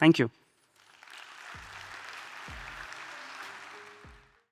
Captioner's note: audience applauding